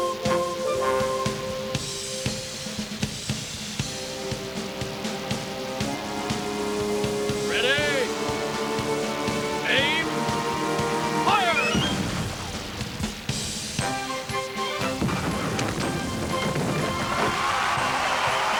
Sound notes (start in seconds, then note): 15.0 explosion